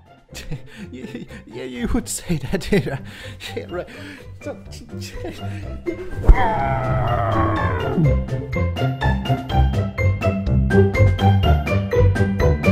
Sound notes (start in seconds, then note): 3.9 insane muttering; 6.1 pillow scream